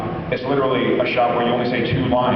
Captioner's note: none